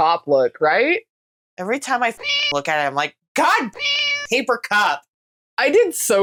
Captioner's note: meow